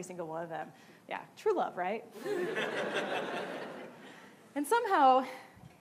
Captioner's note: laughing